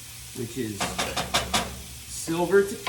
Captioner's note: metal clanking